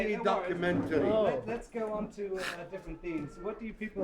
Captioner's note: voiceover